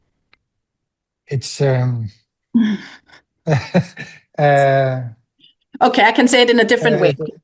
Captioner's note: laughs